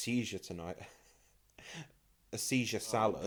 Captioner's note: laughs